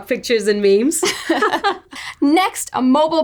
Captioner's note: laughing